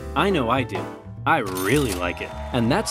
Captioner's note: cash register ringing